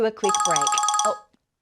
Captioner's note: phone rings